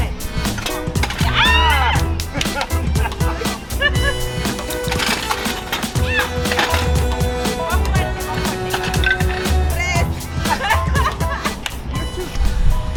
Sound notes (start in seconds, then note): 1.3 laughing; 1.6 clapping; 5.1 foosball table rattling; 9.8 laughing